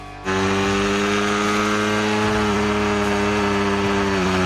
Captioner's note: engine revving